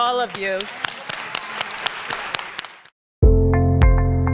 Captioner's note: everyone applauding; bright music